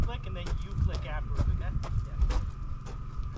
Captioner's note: footsteps